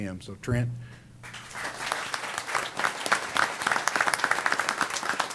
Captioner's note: applause